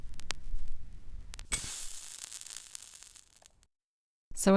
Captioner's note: record crackles and the sound of the needle being placed on the record; match sizzles as it hits the plate and goes out